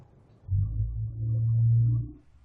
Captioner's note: low woosh